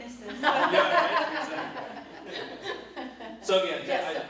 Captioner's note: laughs